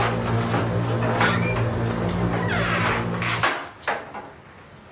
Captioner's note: ominous music continues; door creaks